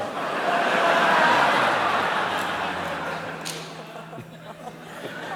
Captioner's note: laughter